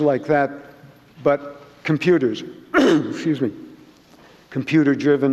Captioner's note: clearing throat